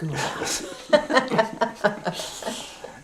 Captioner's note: laughter